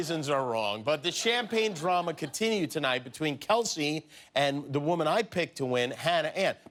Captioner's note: laughter